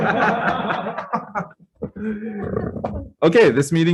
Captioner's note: laughs collectively